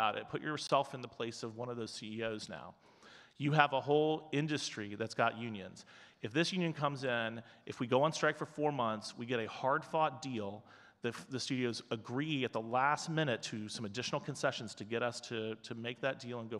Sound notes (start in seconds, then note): none